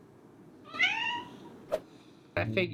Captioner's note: loud meow